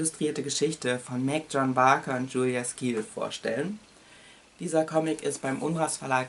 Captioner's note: in german